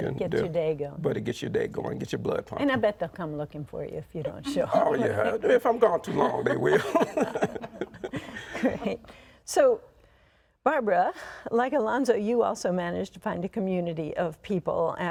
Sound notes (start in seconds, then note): 8.2 chuckles